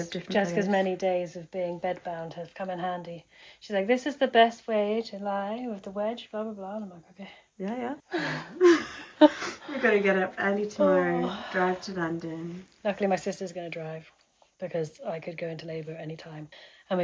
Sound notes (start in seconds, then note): 8.1 both laugh